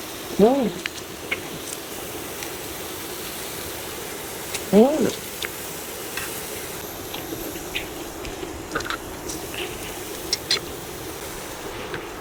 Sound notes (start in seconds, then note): 4.7 inhalation